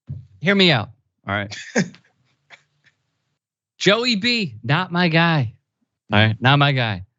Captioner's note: laugh